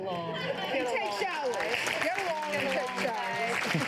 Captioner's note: clapping